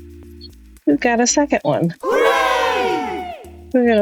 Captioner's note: crowd cheers “hooray” again